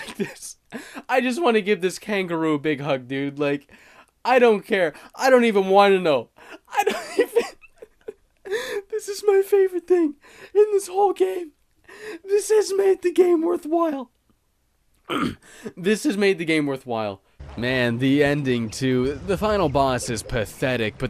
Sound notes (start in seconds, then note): 6.4 breathy laughter; 8.5 high pitched voice from laughter; 15.0 clears throat